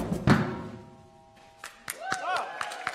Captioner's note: applause